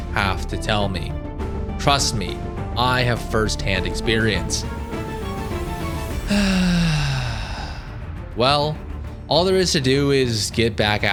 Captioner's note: sigh